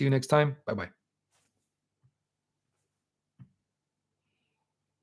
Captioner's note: silence